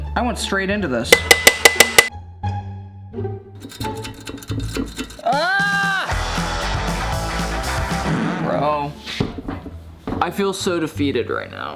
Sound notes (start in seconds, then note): 1.1 hammer clanging; 3.6 metal clanging; 5.3 upbeat rock music